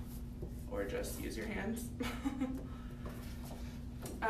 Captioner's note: laughs